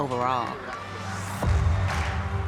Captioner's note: crowd cheering